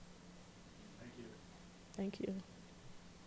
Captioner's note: voiceover